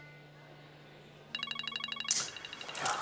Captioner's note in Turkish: Telefon çalıyor